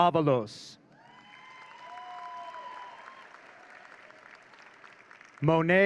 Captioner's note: audience cheering